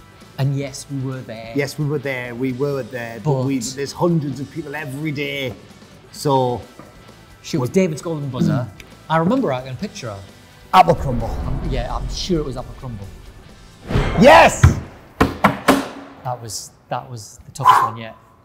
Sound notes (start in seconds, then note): 14.7 banging